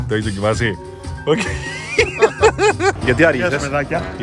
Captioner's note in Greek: γέλια